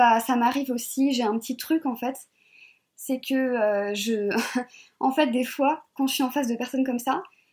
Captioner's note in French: rires